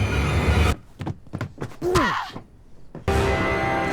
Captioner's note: blow thudding; loud ominous music